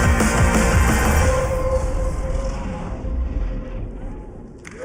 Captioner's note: cheers and applause